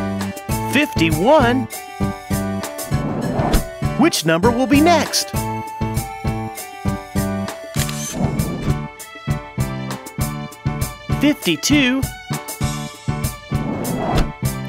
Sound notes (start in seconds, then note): 7.7 SFX: Camera Shutter